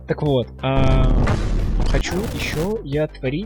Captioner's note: mega sounds of explosions